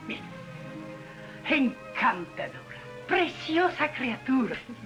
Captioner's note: speaking spanish